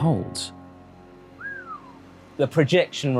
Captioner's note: whistles